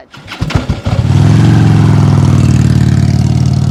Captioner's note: engine roaring